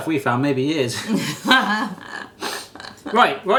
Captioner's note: both chuckling